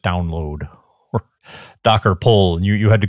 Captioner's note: laughs